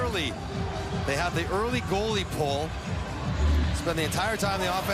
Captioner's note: sports commentary